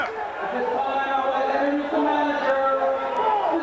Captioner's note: crowd cheering